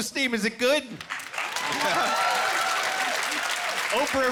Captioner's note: cheering